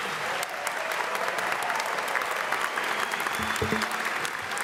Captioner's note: audience applauds